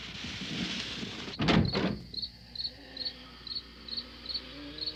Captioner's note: insects chirping